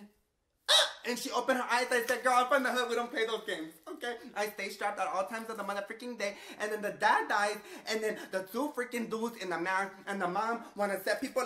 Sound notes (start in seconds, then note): 0.7 squeals